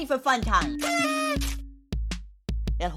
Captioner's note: party blower whirs